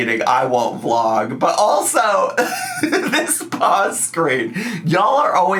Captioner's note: laughs